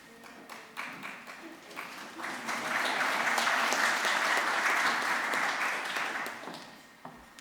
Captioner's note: applause